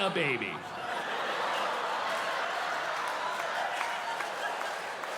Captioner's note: audience laughing